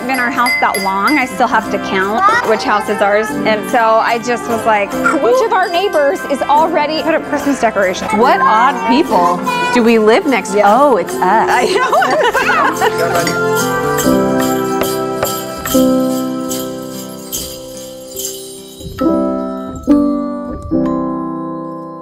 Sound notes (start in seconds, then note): 11.5 laughs; 12.8 christmas bells